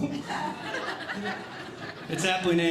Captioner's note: audience Laughing